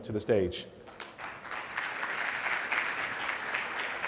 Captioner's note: applause